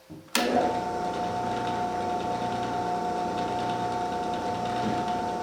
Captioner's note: machine powering on